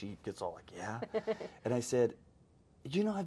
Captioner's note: host laughs